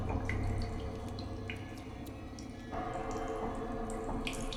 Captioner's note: ominous music; liquid sloshing